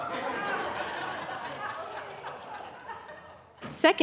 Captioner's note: audience laughing